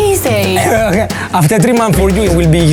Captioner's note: laughs